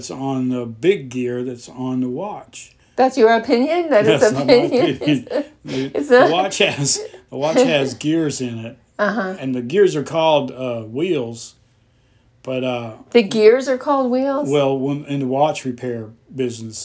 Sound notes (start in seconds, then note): 4.0 laughter